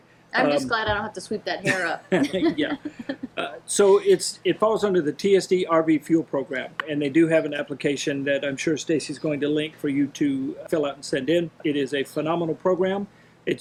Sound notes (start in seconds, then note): 1.6 laughing